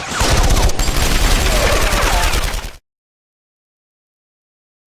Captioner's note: guard groans